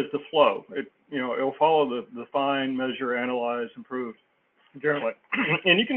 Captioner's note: cough